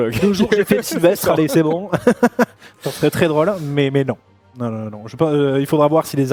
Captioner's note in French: rires; rires